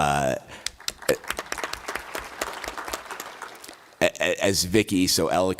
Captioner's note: applause